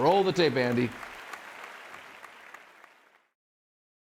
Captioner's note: audience applauding